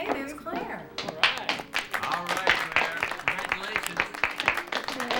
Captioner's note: all: clapping